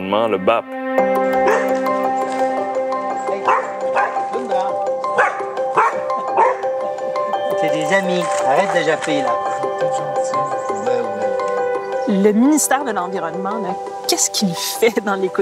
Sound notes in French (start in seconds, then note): 0.2 jappement; 3.4 rire; 3.4 jappement